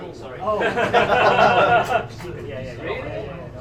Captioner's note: laughter